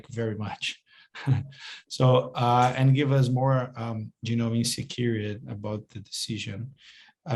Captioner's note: chuckles